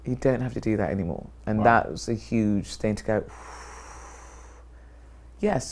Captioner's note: exhales